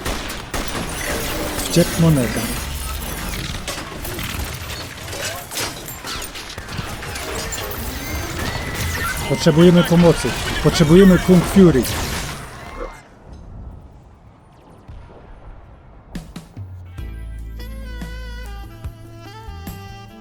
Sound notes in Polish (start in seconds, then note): 8.0 sygnał ze policyjnego radyja; 12.9 szusy z gwerōw i wrzaski z daleka